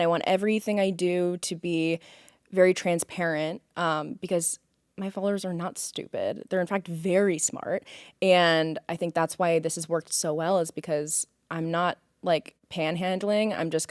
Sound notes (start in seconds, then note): none